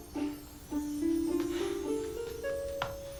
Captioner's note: sighs